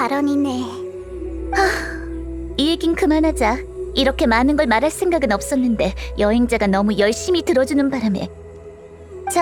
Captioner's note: sigh